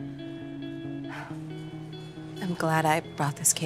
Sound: sighs

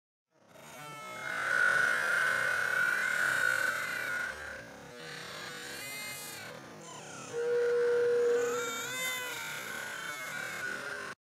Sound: Lilo and stitch, brother bear, barbie Mattel doll crying continues

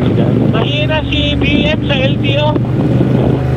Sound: distorted audio

